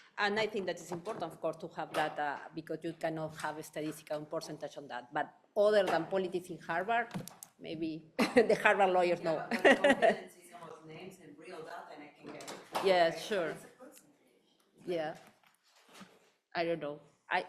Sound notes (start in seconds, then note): 9.5 chuckling